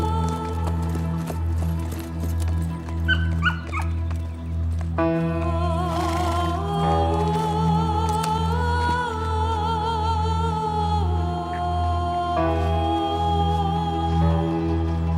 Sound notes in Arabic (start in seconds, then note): 2.9 صوت كلب; 5.8 صوت حصان